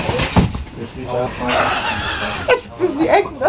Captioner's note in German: Sie lacht; lachend